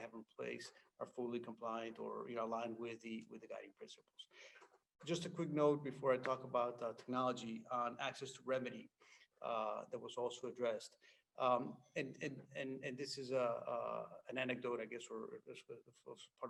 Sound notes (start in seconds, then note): none